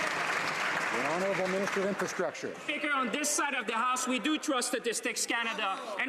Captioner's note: some Applause